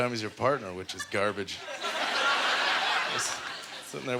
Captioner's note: audience laughter